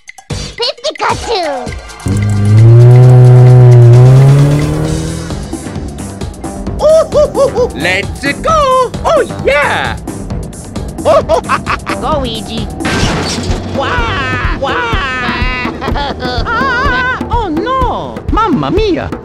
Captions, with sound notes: Pikachuu! Oho ho ho ho! Let's-a go! Oh yeah! Oho ha ha ha! Go Weegee! [Crash] Wahhh! Wahhh! [Crying] Ahhh! Oh no! Mamma Mia!